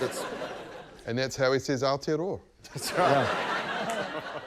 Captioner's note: laughter